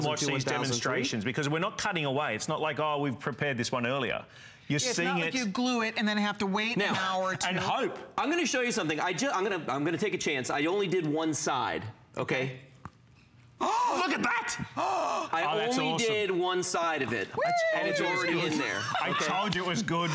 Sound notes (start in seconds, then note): 17.3 cheering; 19.9 cheering